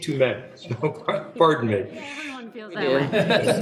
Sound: laughing

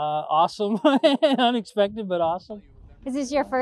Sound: laughs

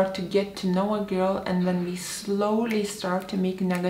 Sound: snapping fingers

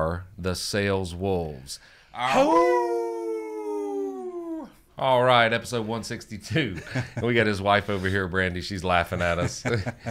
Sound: howl

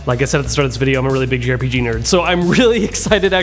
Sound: laughs

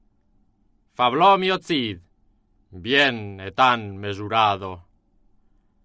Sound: speaking in foreign language

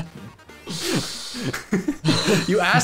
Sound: giggling

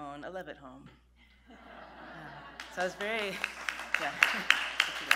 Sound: laughter

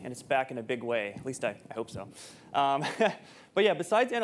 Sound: chuckles

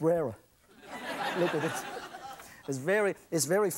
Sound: audience laughs

